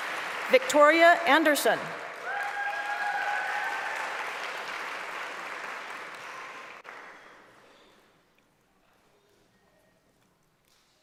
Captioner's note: applause; applause; cheering